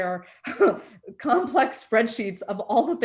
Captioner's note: chuckles